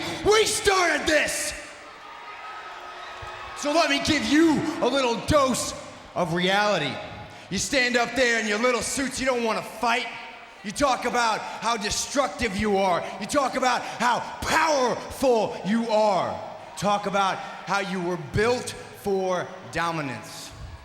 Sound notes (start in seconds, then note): 2.6 audience cheers